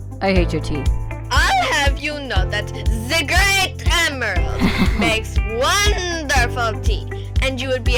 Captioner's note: Felix chuckles